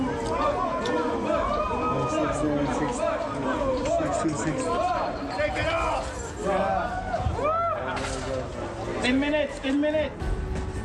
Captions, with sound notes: (crowd cheering) - Six, nine, six. Six, six, six. - Pacquiao! - 10 minutes. 10 minutes.